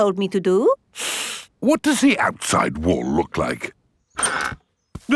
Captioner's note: inhales sharply